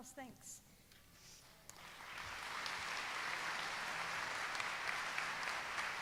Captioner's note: applause